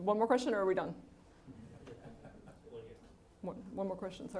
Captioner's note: audience laughing